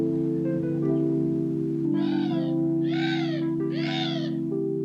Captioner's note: bird cawing loudly